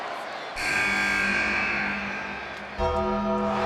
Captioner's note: buzzer sounding; bell tolls; crowd cheers